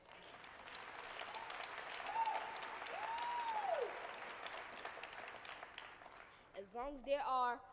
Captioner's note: applause